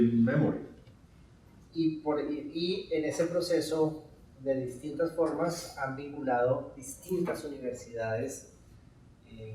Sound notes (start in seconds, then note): 1.9 speaking in Spanish